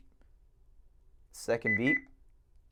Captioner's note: beep beep